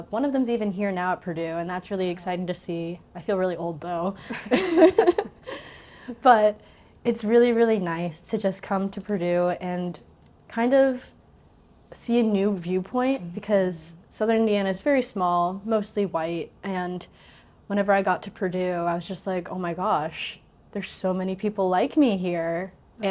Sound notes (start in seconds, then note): 4.3 laughs